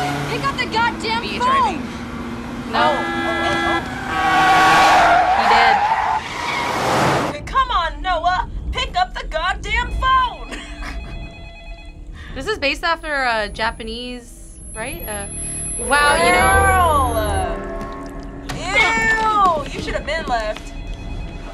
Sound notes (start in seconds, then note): 4.2 horns blaring; 4.2 tires squealing; 10.4 laughs